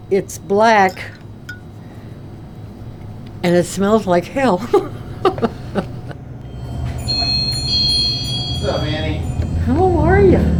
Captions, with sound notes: It's black and it smells like hell. (laughing) (bell ringing) - What's up, Annie? - How are you?